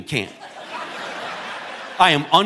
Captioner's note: audience laughing